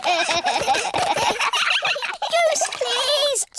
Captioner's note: all giggling